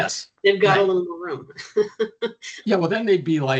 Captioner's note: chuckling